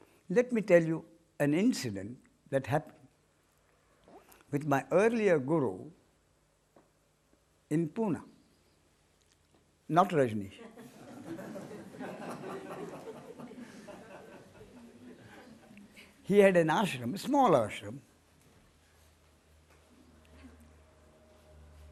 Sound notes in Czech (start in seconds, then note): 13.1 smích